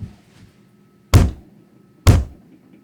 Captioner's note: thud